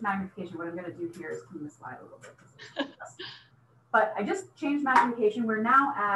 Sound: laughter

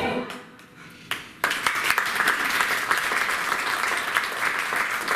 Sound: applause

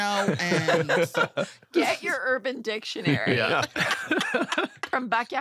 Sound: laughter; laughter

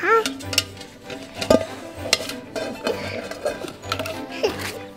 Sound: metal bucket clanking; grunts

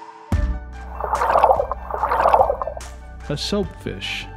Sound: tail swishing

